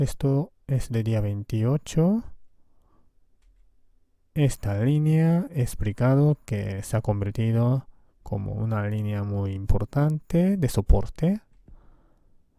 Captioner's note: Spanish